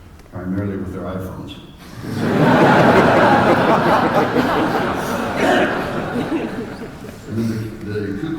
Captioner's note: laughter